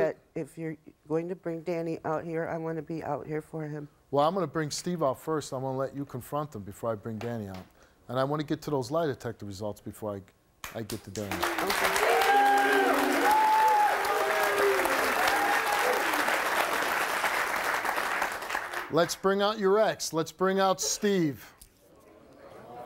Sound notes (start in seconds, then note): 11.0 audience applauds